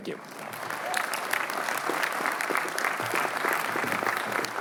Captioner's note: applause